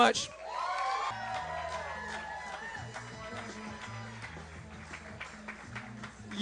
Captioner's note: audience cheers + applauds